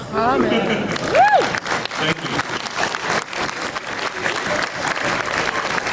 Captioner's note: clapping